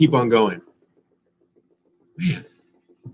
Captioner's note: helicopter buzzing